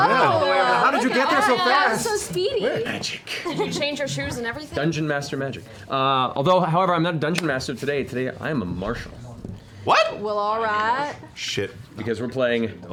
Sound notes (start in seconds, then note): 11.0 drawling